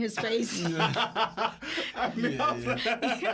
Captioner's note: laughter